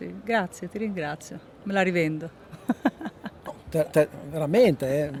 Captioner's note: laugh